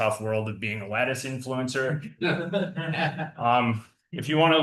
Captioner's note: attendees laughing